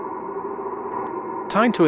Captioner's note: wind